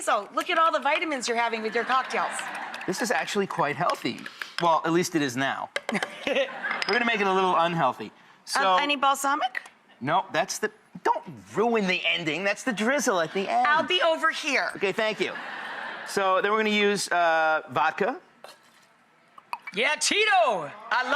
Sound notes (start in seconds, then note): 2.3 laughing; 5.9 laughs